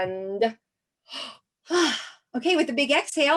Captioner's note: gasps and exhales